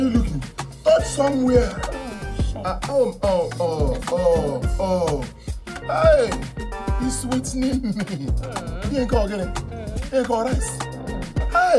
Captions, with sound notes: Where are you looking? Touch somewhere. (foreign language)